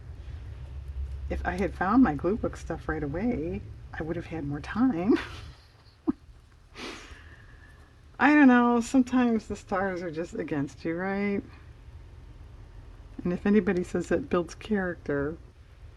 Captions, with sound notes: if I had found my glue book stuff right away, I would have had more time (laughs) I don't know sometimes the stars are just against you, right? and if anybody says it builds character...